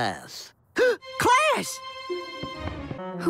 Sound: gasp

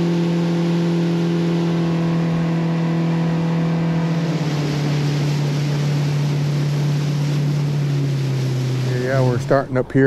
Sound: boat engine running

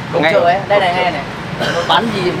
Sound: chatting

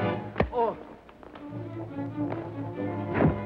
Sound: Gordon grunts

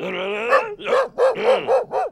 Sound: woof woof woof woof woof

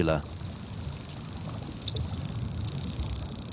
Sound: dolphin clicks

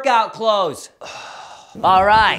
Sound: man grunts

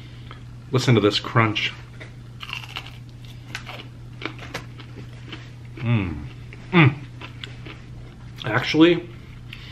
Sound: crunching

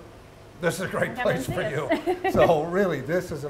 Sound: laughing

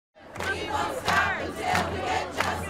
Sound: chanting

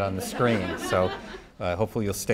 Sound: audience laughing

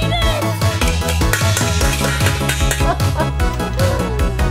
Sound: metallic clanging; laughs

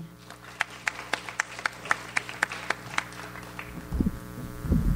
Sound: audience applauds

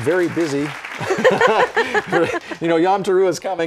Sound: laughter

